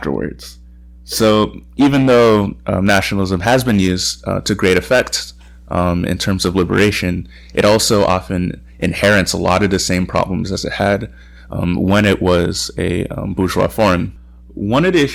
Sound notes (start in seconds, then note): none